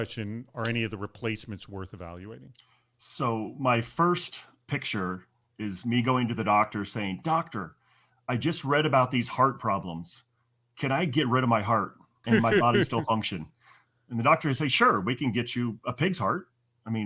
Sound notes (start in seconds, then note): 12.3 interviewer laughs